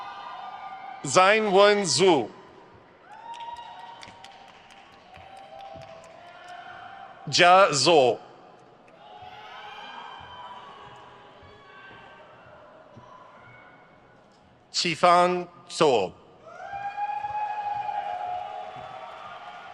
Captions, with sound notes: Zhanwen Zhu. (crowd cheers) Jia Zou. (crowd cheers) Qifang Zou. (crowd cheers)